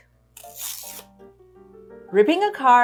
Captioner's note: card ripping